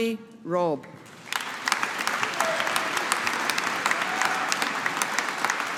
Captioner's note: audience applauding